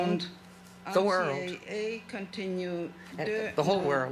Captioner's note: speaking French